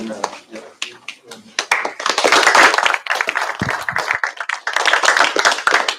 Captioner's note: applause